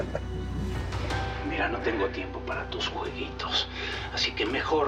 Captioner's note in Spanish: risa sarcástica